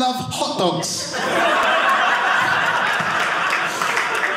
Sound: audience laughing

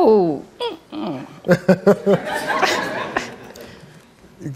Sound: audience laughs

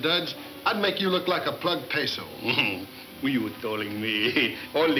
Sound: giggling

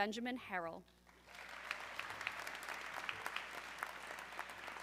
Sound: audience clapping

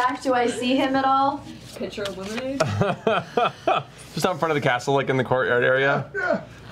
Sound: chuckles

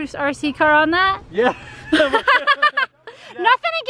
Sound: laughing

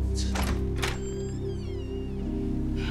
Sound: door opens

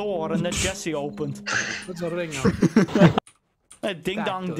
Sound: laughter in clip on-screen

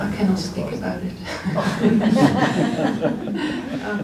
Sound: laughter

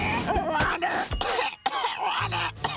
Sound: coughing

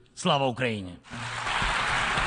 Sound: applause

